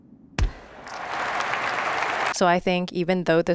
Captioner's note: audience applauds